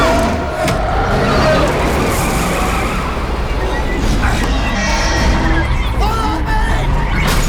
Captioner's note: engine revving; tires screeching